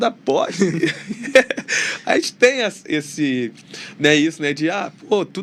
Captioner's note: risadas